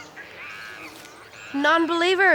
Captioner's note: monkey chatters